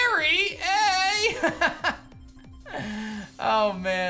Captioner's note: laughs